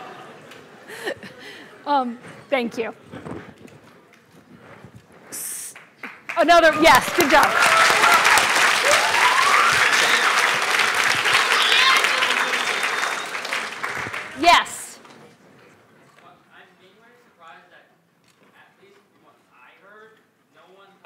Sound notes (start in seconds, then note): 7.9 applause